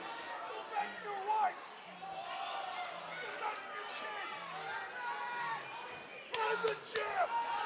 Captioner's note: cheers and boos